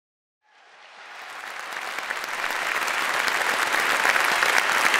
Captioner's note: audience applauds